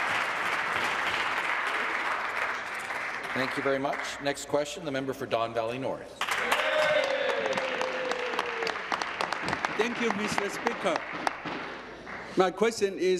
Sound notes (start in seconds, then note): 2.3 applause; 10.8 applause